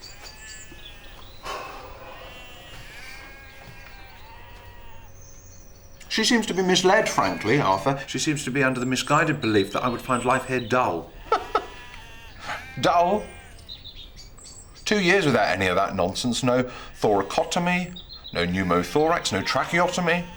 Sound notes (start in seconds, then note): 1.9 bleating continues; 11.3 laughs